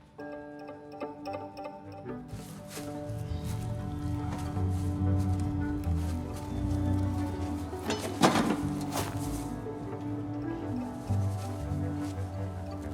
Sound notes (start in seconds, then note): 0.1 ambient music begins playing; 7.8 sound of metal bucket hitting ground